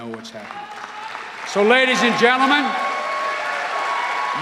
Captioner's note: cheers and applause